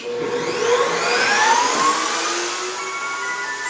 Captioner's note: router buzzing